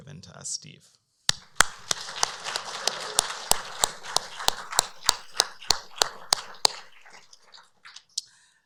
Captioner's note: applause